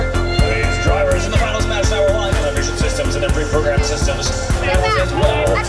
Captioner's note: announcer talks over speaker